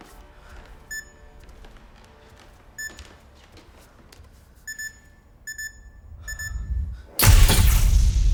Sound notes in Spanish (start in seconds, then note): 5.5 pitido más rápido; 6.9 clics del obturador de la cámara